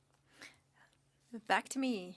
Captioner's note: speaking French